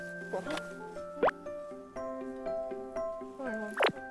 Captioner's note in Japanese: も もぐもぐ